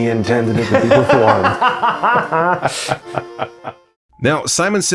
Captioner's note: laughing